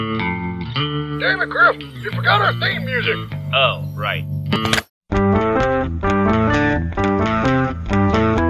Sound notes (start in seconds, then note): 4.5 click